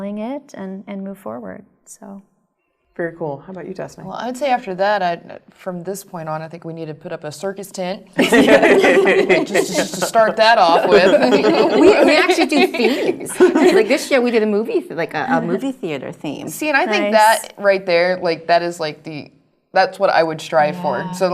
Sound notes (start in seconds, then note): 8.2 laugh